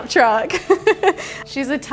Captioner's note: laughs